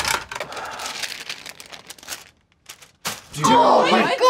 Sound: paper rattling

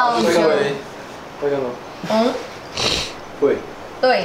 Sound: indistinct chatter

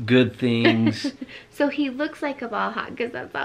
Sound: laughs

